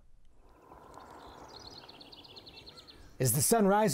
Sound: birds tweeting

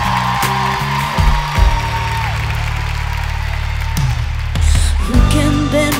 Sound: applause

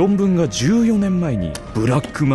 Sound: footsteps

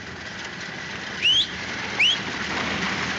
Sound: whistles

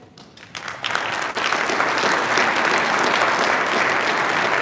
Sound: audience applauding

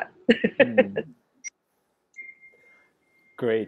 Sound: laughing

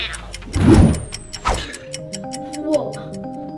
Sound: whooshing

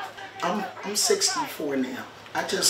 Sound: crowd yells in background

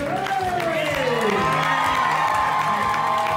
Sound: audience cheers

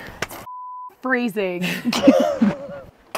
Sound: beep; laughing

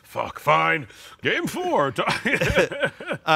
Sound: laughs

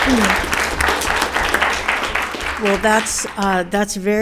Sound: audience applauding

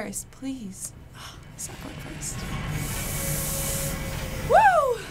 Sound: steam hissing

